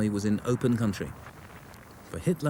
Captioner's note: shell booms